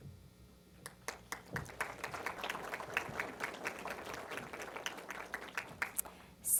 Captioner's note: applause